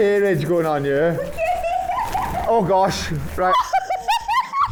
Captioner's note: laughing